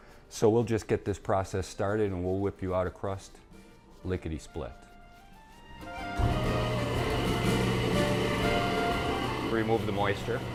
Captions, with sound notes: So we'll just get this process started and we'll whip you out a crust lickety-split. (machine whirring) (Italian music) Remove the moisture.